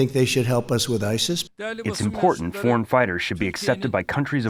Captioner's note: through translator